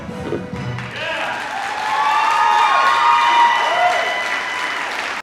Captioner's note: audience cheering